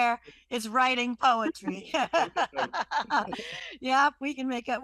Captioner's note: laughter